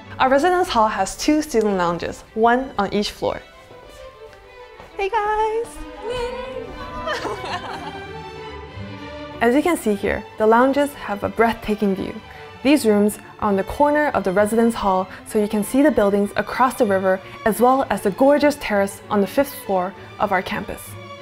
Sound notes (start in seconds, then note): 6.6 students laughing